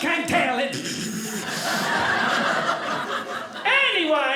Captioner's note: audience laughing